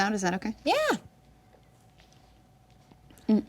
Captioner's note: hums tune